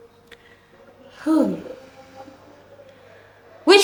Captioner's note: sighs